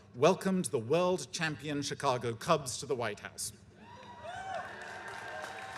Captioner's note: cheers and applause